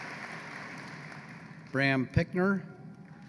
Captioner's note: applause